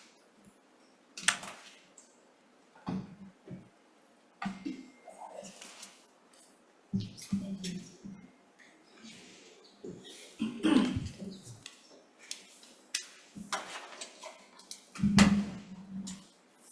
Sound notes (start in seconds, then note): 5.4 papers shuffling; 6.4 mics tapping; 10.0 throat clearing; 12.5 pens clicking